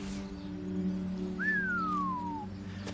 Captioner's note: man whistling